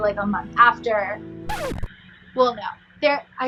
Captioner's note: record scratching